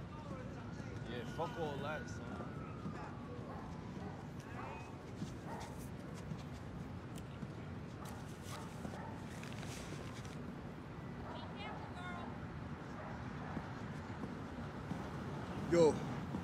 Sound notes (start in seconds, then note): 2.6 dog's barking; 2.6 siren